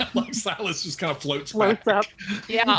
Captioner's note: laughs